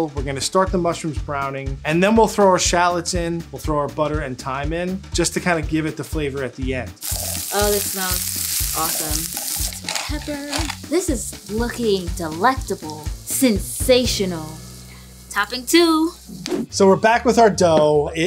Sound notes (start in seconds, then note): 8.9 ingredients sizzling; 10.3 pepper grinding